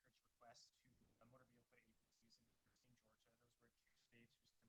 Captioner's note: faintly speaking